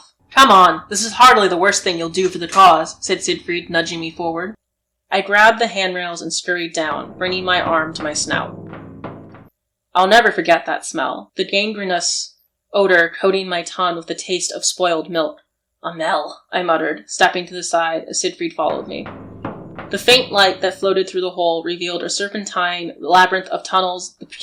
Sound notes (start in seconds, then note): 9.2 sound of foot on metal steps